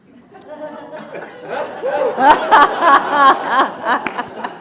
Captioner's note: attendees laughing